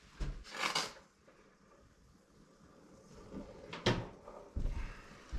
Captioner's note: footsteps